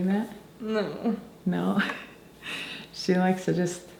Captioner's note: laughing